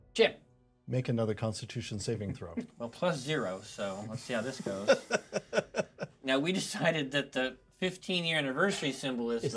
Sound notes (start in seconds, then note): 2.6 speaker laughs